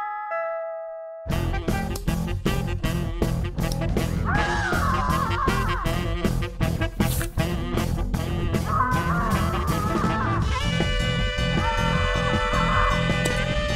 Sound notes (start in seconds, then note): 4.0 yelling; 8.6 yelling, again